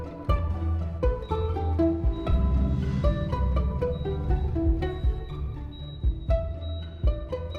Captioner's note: machine beeping